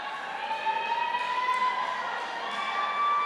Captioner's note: cheers